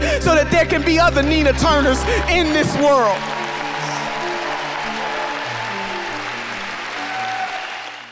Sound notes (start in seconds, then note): 3.5 audience applauding